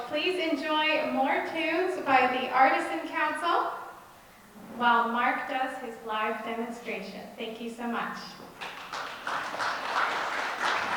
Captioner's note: applause